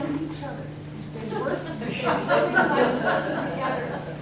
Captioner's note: everyone laughing